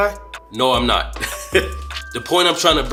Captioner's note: laughs